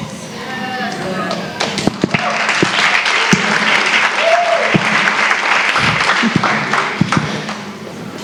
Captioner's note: applause